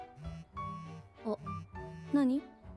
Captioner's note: phone vibrates